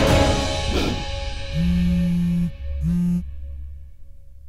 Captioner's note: Phone buzzing